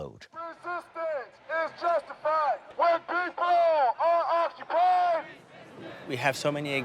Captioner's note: chanting